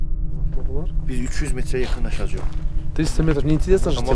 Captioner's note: talk on Persian language